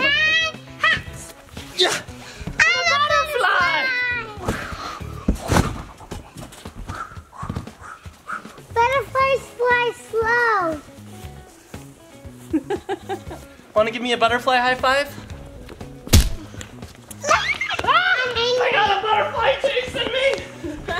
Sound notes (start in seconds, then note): 5.2 flapping; 12.4 laughing; 17.2 screams